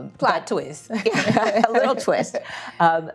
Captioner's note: people laughing